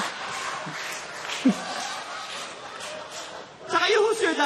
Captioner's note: laughter